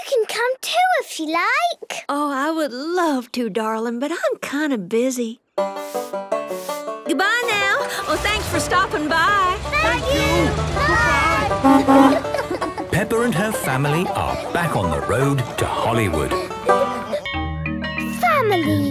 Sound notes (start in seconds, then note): 12.5 honking; 17.2 school bell ringing